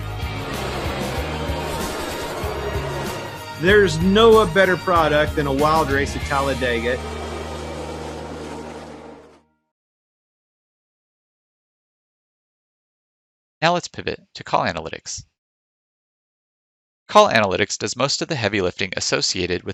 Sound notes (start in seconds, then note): 0.0 lively music; 0.0 car engines roaring; 7.2 lively music fades